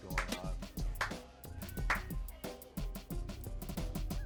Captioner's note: clapping